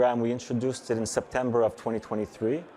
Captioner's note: none